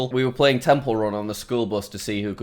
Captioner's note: none